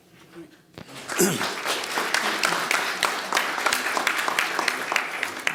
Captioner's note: audience applauding